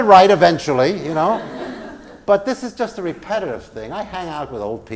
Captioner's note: laugh